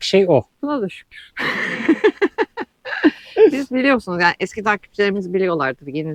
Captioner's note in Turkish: kahkaha